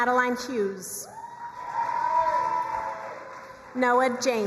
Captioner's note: crowd cheering and applauding